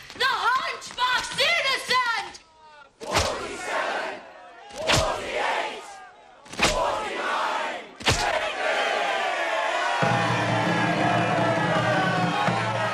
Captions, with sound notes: The hunchback's innocent! [CROWD]: Forty-seven! Forty-eight! Forty-nine! Fifty! (cheering)